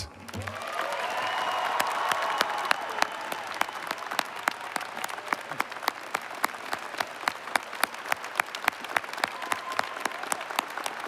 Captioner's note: cheers And Applause